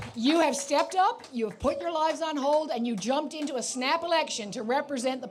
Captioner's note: applause